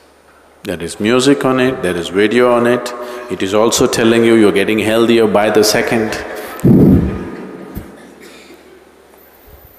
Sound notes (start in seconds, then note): 5.1 all laugh; 7.2 都笑了